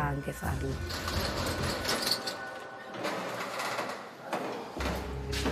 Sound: metal door rattling; ominous music; speaking in Italian

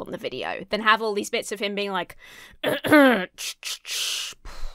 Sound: clears throat

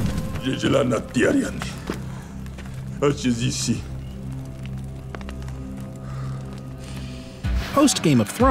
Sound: speaking dothraki

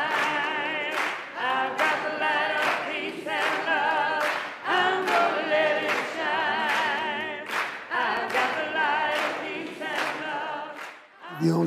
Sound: clapping; clapping

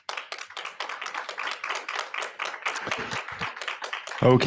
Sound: audience applauding

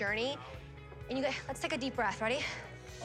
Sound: inhales, exhales

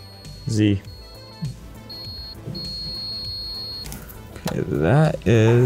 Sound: sensor pinging

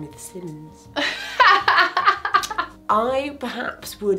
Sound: laughs

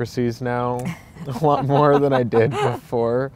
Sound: laughing

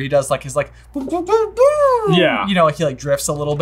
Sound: imitating video game noises

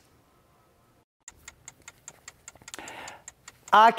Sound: clock ticking

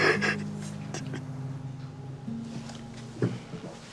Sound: crying

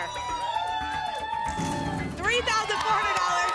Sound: cheering

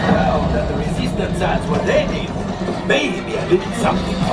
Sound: chatter from riders and sound effects from ride

